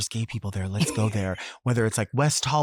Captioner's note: chuckles